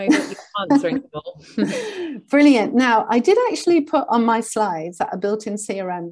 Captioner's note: chuckles